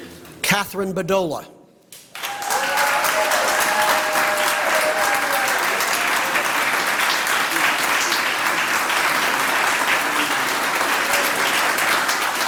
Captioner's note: applause